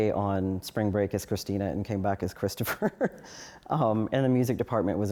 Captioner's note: laughs